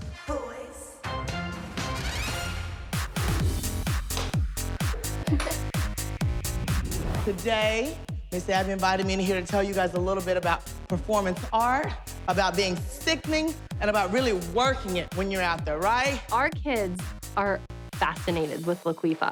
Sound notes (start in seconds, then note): 3.1 upbeat music plays; 4.8 chuckles